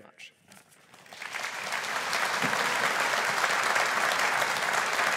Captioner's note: audience applauding